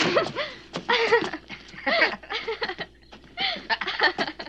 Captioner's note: giggling